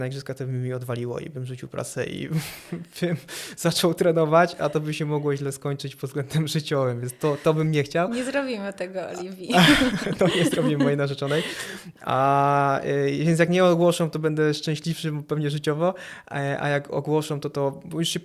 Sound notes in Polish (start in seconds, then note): 9.4 śmiech